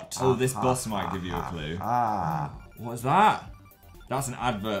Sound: laughing

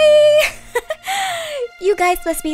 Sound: giggles

